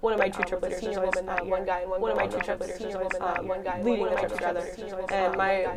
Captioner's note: corrupt Audio